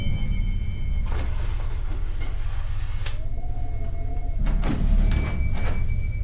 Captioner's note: eerie music; wind whistling